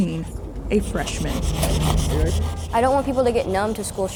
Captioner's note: chalk scraping